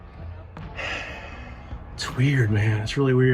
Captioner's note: sighs